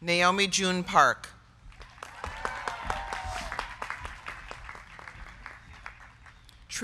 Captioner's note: crowd clapping; crowd cheering